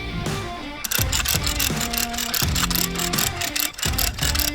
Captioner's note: gears clunking